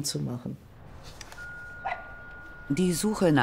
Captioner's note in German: Klingel, Hundegebell